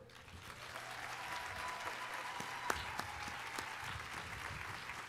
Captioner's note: audience applauding